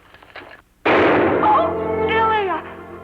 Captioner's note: bang